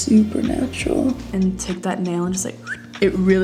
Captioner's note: short whistling